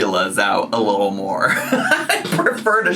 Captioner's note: laughs